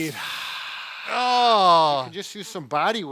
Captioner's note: exhales deeply; instructor groans